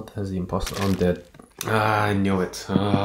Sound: squelching

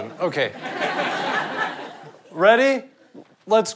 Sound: audience laughter

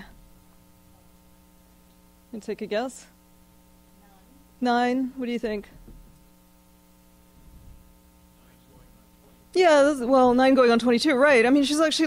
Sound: pause

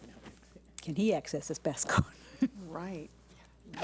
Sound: laughs

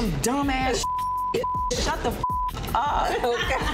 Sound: beep

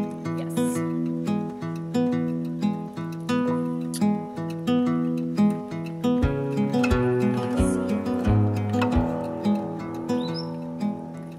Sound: gentle music; bird's chirping

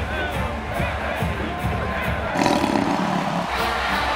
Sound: crowd chants; mike the tiger roars

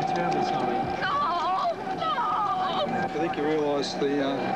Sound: crying

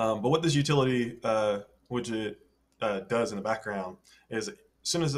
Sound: none

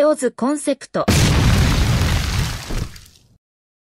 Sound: explosion

